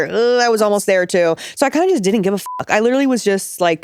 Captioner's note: beep